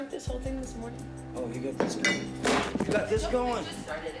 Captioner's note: camera banging